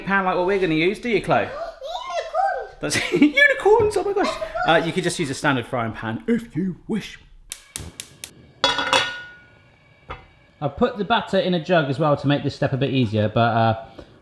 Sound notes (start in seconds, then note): 1.7 gasps